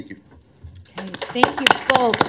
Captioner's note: applause